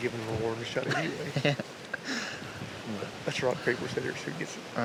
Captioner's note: giggles